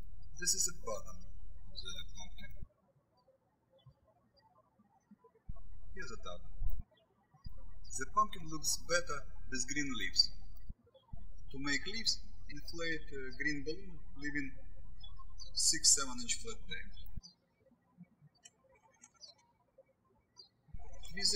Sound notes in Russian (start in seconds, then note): 3.4 птички щебечут; 17.7 птички щебечут